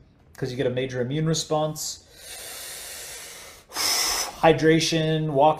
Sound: breathes deeply

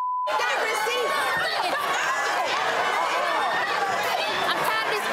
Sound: beep; crowd laughing

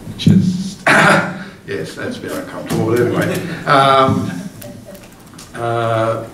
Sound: coughs

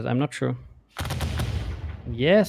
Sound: volley of booming sounds

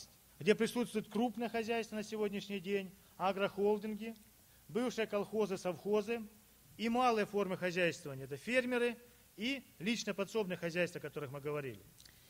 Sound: speaking Russian

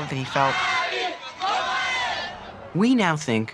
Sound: crowd chanting

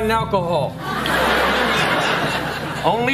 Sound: audience laughing

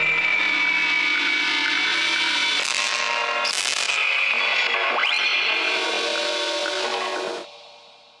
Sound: distorted machine noises

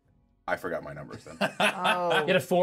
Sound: speaker laughs

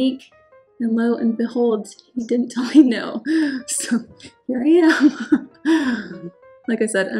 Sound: laughing

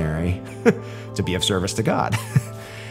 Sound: chuckles

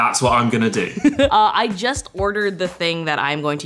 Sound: laughs

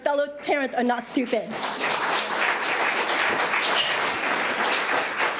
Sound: audience applauds

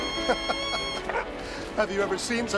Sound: laughing

